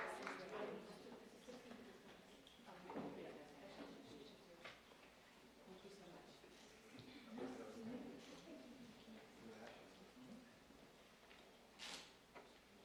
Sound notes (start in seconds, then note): 0.0 applause